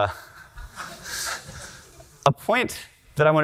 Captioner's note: audience laughter